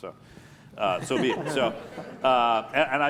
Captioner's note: laughter